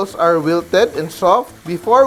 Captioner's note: sizzle